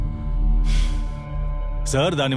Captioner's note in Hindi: आहें